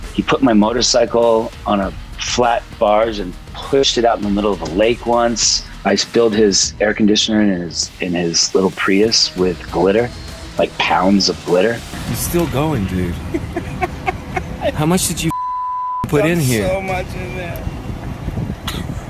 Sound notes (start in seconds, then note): 13.0 Norman laughs offscreen